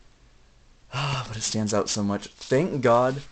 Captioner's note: sigh